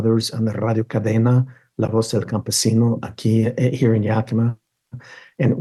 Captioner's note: speaks in foreign language